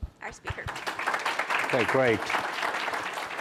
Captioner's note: audience applauding